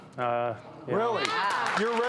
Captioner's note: audience clapping